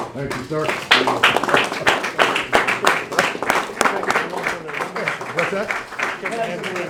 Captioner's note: applause